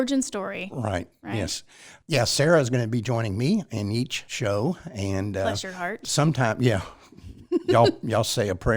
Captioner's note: laughs